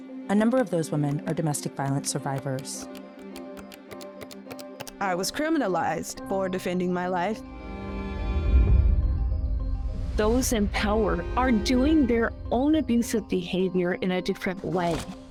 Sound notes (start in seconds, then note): 2.9 camera clicking